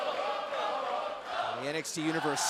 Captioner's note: fans chanting